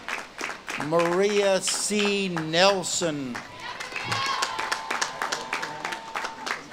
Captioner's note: audience claps and cheers